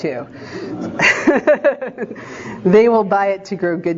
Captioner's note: laughing